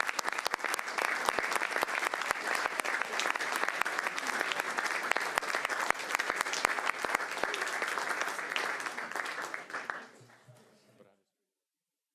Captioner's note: applause